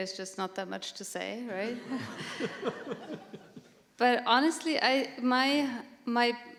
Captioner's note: laughter